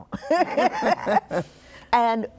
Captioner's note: laughter